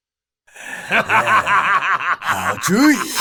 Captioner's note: laughs heartily